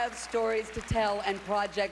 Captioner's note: cheering and applause